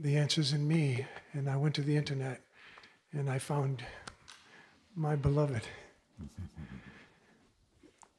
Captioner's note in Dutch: grinnikt